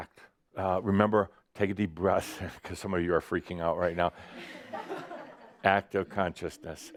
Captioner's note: some laughter